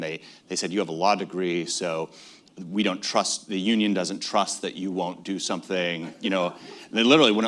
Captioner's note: laughter